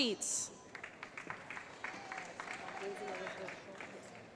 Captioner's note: applause